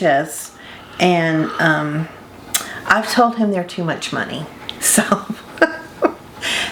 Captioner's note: laughs